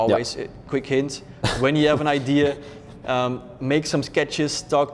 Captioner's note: laughs